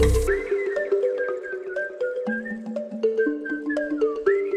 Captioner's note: whistling